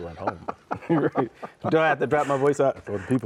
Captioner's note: both laugh